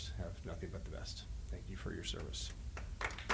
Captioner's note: applause